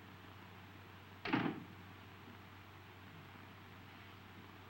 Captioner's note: door latching